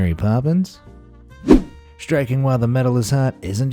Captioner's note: whoosh